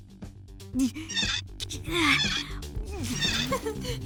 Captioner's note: cabby strains